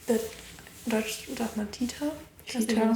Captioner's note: speaking German